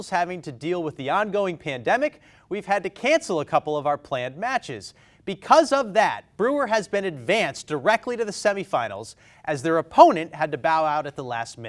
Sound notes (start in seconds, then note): none